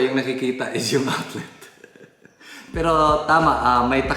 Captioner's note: giggles